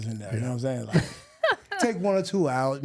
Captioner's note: laughing